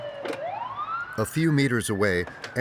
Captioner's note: siren blaring